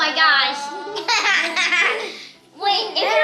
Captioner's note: everyone laughs